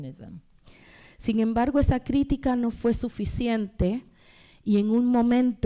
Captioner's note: speaking spanish